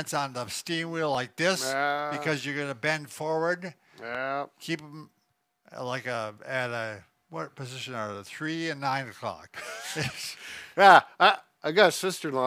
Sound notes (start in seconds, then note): 1.5 hums agreeably; 9.8 laughs